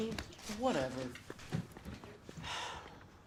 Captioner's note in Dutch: zucht